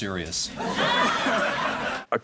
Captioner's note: laughter